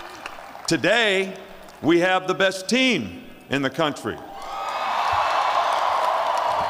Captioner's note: cheering